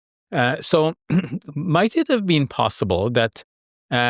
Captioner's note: clears throat